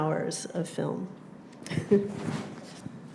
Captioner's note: chuckles